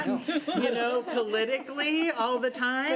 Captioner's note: laughing